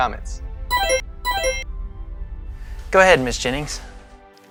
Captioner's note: monitor beeping